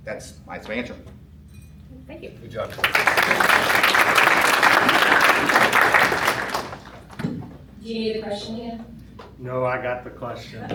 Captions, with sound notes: That's my answer. Thank you. Good job. [applause] Do you need a question again? No, I got the question.